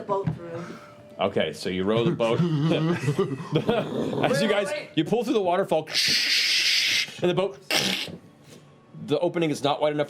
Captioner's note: cracks